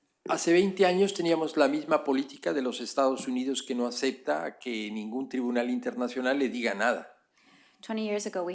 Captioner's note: speaking spanish